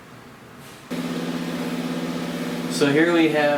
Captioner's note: machine roaring